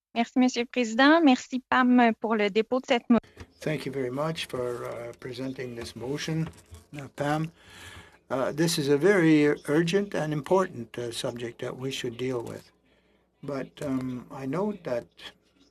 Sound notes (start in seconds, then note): 4.0 speaking French